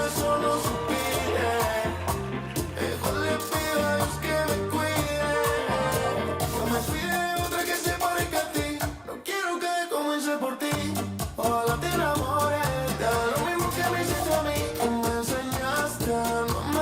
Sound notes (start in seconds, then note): 0.0 audience cheering